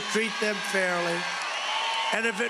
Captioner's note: cheering and applause